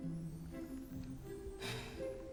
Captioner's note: sighs